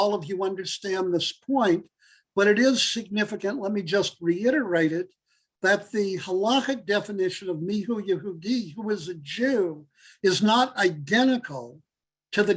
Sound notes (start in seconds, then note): 7.6 Hebrew